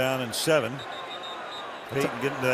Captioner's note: whistle